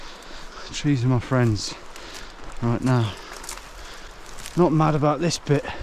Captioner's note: breathes deeply